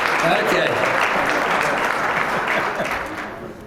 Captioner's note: applause; laugh